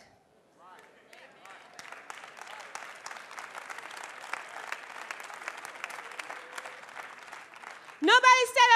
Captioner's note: applause